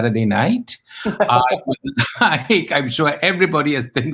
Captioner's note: laughs